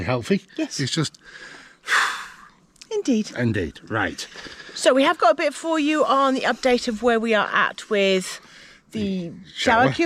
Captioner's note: sigh